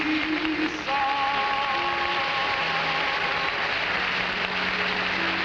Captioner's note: audience applauding